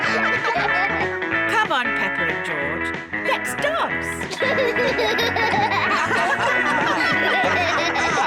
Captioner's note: all giggle; all laugh